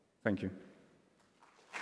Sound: applause

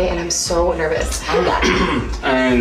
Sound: justen clears his throat

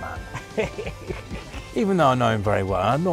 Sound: laughing

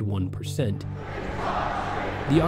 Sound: protesters chanting

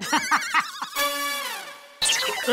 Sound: laughing

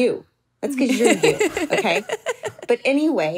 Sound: laughs

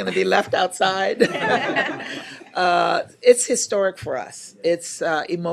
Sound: laughter

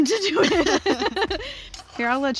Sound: laughs

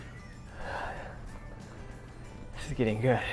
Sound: breathes heavily

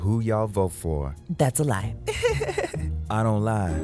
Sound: laughs

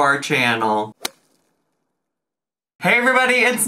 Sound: logo thuds

